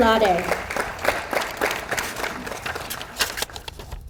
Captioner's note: audience applauds